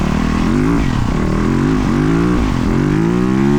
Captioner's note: engine revving